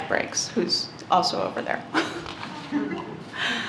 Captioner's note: laughter